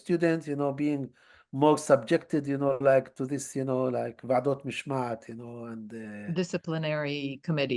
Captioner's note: hebrew